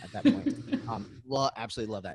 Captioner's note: laughs